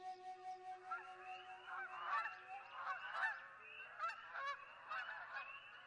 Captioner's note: flute; geese honking